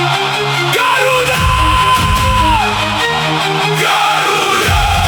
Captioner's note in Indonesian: berteriak